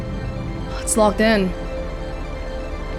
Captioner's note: sigh